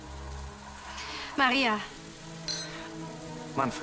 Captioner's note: chink of glasses